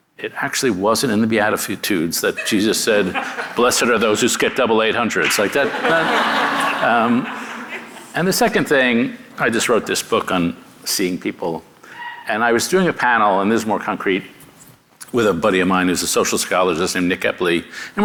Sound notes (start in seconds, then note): 5.2 audience laughing